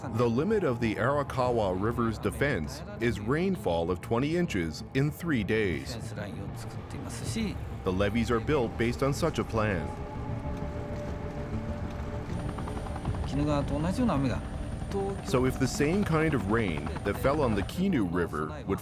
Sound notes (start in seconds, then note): 0.2 speaking Japanese; 10.9 helicopter blades whirring